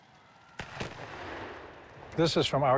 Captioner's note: gunfire